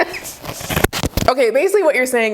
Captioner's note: both laughing; microphone feedback